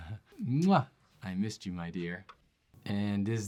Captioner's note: kiss